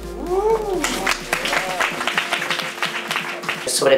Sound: applause

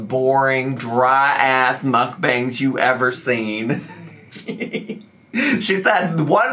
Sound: laughs

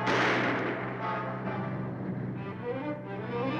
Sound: guns firing

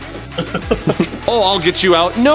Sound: laughing

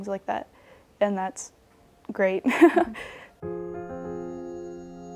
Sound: laughs; soothing music

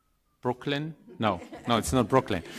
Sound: group laughing

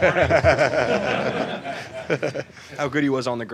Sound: laughter

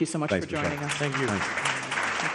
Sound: applause

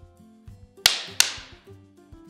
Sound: knocking

